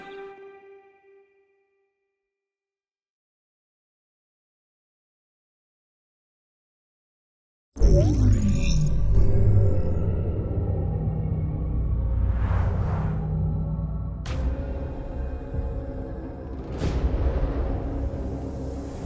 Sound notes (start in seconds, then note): 7.7 dramatic intro sound; 16.5 ominous dramatic music playing